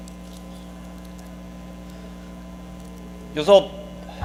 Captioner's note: dog tags clinking